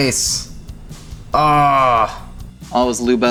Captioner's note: yells